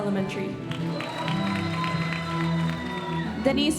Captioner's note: audience applauding